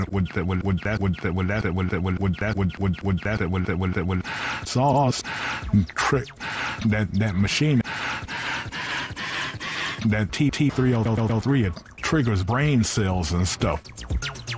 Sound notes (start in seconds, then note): 5.2 breath